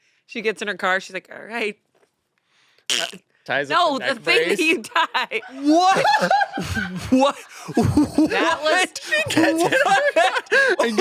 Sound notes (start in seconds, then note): 5.5 laughs